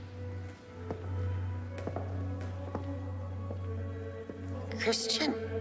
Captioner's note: footsteps clacking over eerie electronic music